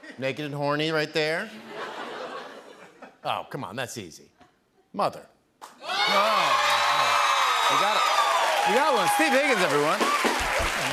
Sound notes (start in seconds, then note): 5.8 cheers and applause